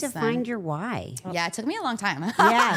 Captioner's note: laughs